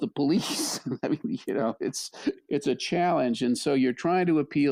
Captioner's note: laughs